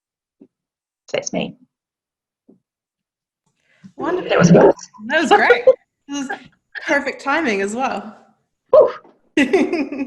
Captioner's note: laughs